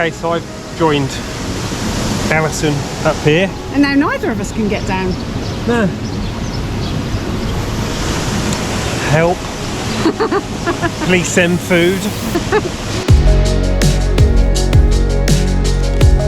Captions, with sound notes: Okay so I've joined Alison up here and now neither of us can get down. No. Help..! [LAUGHS] Please send food..!